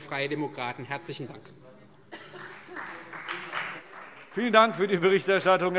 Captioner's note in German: Beifall